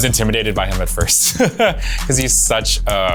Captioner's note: laughs